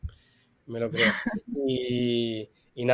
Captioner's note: laughs